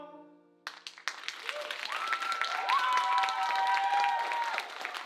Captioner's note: audience applauding